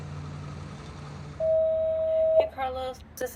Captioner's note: voicemail Beep